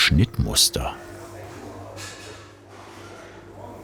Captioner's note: bakery sounds and background noise